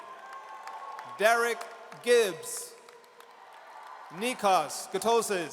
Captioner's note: audience cheers